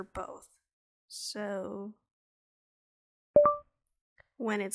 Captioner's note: ding